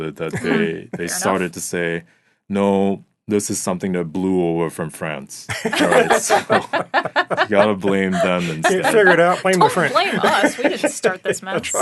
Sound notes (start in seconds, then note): 5.5 laughing